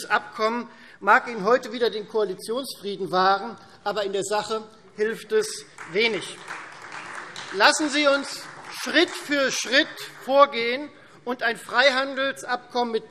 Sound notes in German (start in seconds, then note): 5.6 Beifall Freie Demokraten